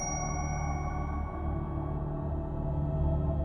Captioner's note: bell chiming